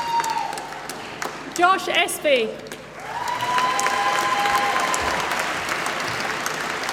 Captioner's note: applause